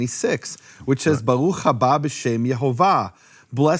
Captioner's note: speaking in foreign language